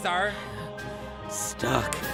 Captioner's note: heavy breathing